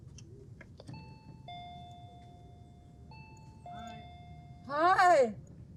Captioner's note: doorbell ringing